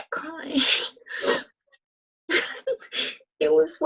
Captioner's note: laughter